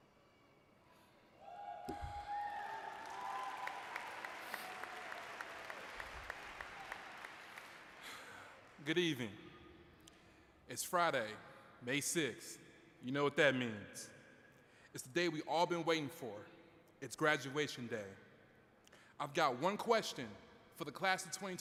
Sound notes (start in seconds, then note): 2.4 applause